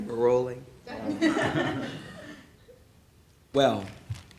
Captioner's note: laughing